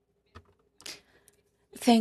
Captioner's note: speaking French